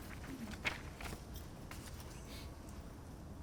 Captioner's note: rustling